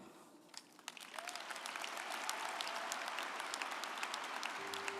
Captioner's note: audience applauding